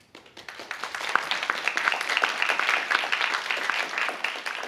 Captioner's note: applause